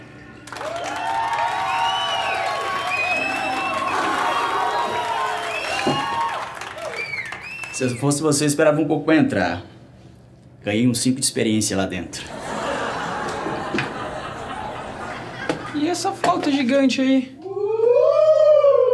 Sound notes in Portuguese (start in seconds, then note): 1.5 aplausos e assobios; 12.3 risadas